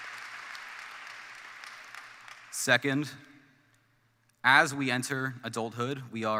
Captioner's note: applause